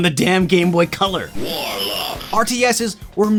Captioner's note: bitcrushed voice sample